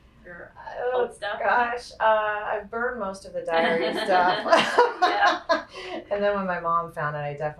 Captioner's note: laughs